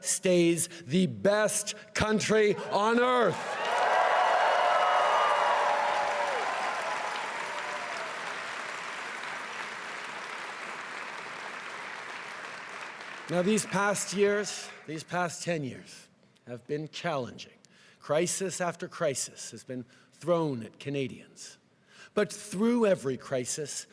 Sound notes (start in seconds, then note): 8.5 cheering and applause